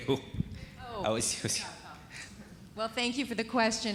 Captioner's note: indistinct conversation